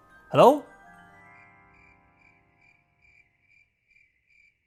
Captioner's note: crickets